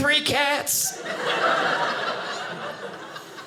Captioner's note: audience laughing